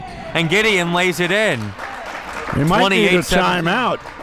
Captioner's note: crowd clapping